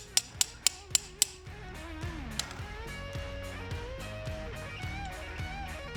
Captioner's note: sawing